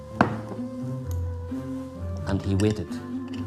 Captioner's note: jar thuds